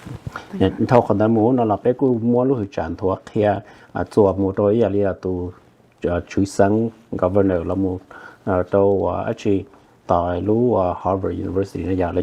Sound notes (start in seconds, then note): 0.7 Speaking in Hmong